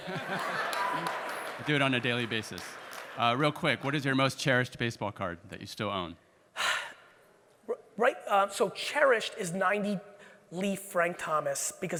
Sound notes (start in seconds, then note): 0.0 audience laughing; 6.6 Gary sighs